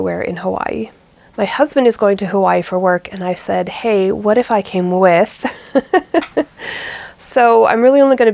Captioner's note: laughs